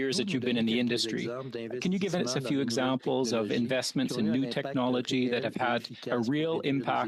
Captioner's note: speaking French